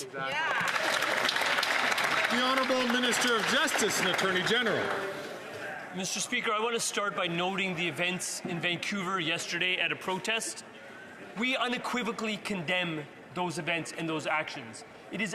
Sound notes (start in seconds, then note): 5.8 some Applause